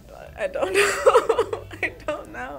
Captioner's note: laughs